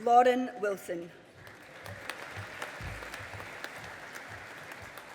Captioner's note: audience applauding